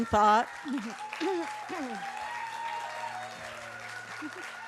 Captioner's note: applause